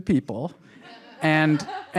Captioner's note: audience laughs